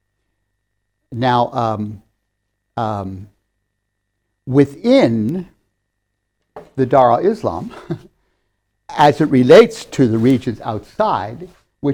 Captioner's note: laughs